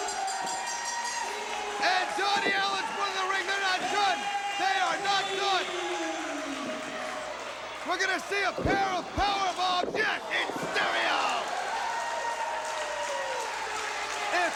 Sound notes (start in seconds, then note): 3.2 crowd cheering; 4.2 bell ringing